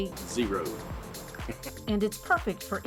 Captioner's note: chuckles